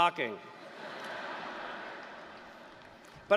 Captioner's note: laughter